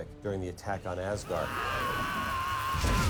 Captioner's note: screaming